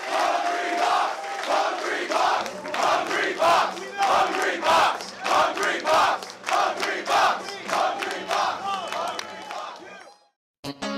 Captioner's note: crowd cheering, "Hungrybox!"